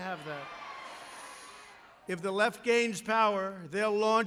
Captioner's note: applause